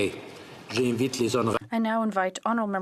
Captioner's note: speaking French